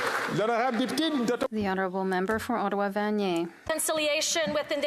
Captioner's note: some Applause